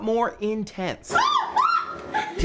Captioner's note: screaming